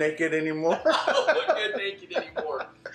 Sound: laughs

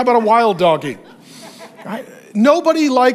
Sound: congregation laughs

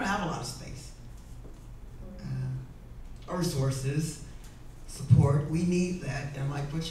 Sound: none

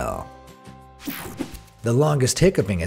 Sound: air whooshing

